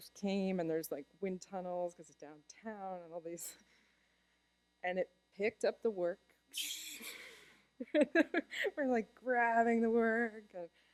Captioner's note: laughter